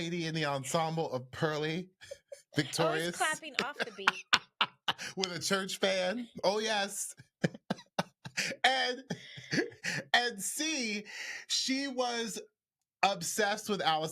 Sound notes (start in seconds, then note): 8.0 laughs